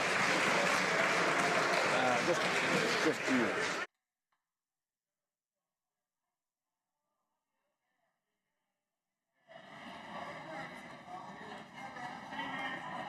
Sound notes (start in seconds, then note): 2.3 some Applause